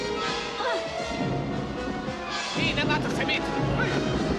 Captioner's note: woman grunts